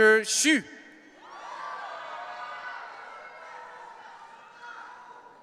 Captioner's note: audience cheering